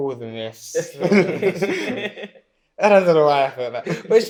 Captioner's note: laughter